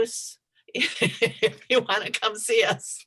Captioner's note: laughs